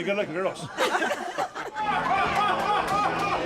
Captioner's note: laughing